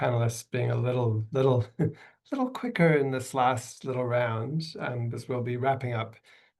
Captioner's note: chuckles